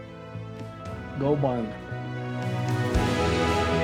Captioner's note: Tector speaks faintly; triumphant music